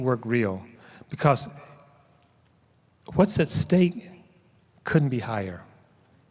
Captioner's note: none